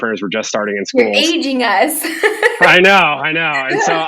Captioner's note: laughs